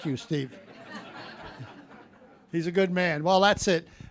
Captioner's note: audience laughing